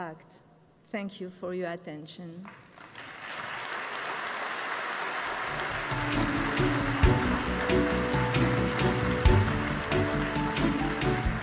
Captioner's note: applause